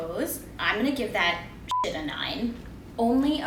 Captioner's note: beep